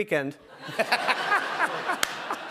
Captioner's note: laughter